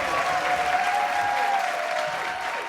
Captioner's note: applause